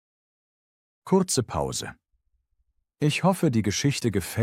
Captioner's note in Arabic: توقف قصير